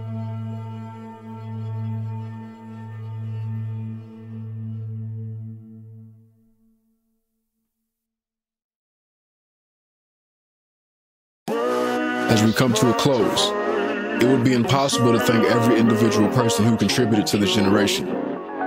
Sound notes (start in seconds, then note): 6.5 silence